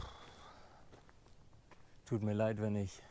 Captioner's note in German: seufzt